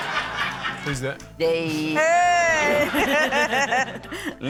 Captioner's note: laughter